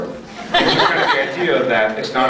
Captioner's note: laughs